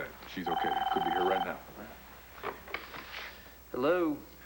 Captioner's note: telephone rings